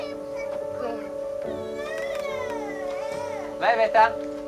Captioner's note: child cries